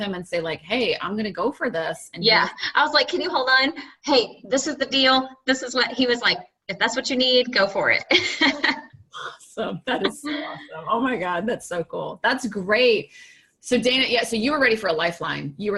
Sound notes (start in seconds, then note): 8.1 laughing